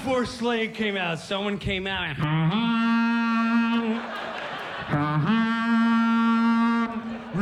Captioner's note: imitates foghorn